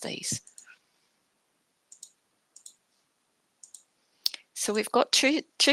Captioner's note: mouse clicking